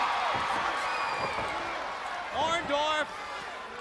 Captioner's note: crowd cheering